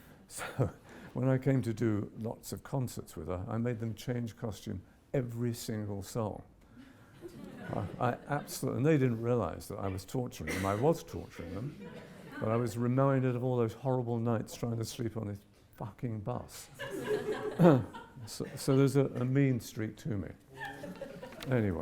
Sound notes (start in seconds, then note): 7.2 audience giggles; 16.8 audience laughs